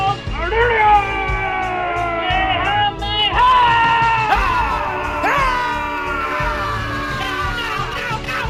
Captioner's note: yelling continues